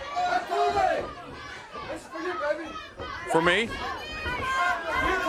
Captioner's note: crowd chatter